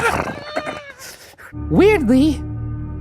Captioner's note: laughs; neighs